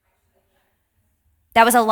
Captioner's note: participant faintly speaking